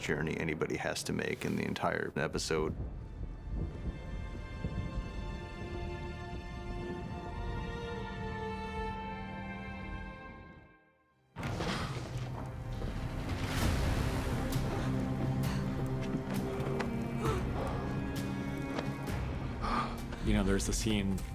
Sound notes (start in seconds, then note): 3.8 somber music plays; 13.3 tense music plays; 17.2 cersei gasps